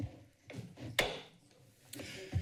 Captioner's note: gavel tap